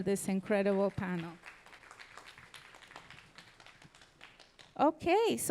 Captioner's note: audience applauding